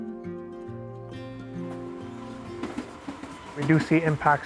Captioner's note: gentle music continues; industrial noises